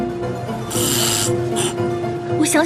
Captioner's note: sound of congested nose